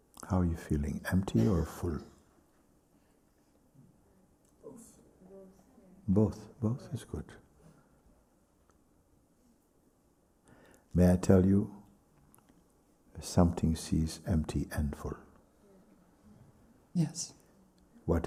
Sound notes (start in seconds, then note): 4.6 voices in group